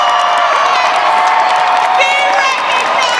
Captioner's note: audience cheering